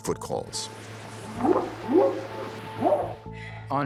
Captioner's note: whooping sound